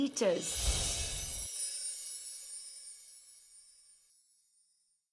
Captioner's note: magical whooshing